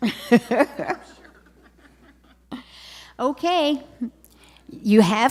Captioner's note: laughter